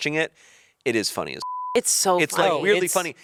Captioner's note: beep